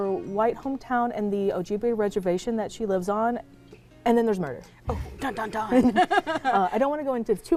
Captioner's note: laughter